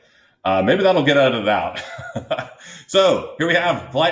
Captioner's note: laughs